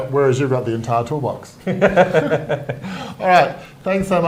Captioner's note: both laughing